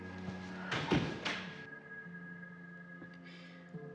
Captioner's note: door closing; dramatic music